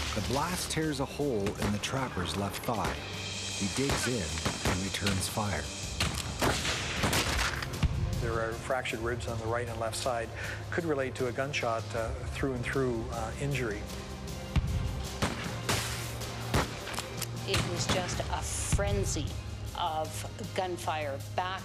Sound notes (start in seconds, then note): 0.3 voiceover; 6.0 guns firing; 16.4 guns firing